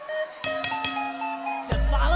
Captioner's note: bell ringing